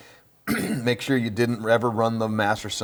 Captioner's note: clears throat